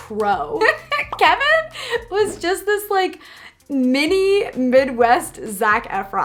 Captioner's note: laughs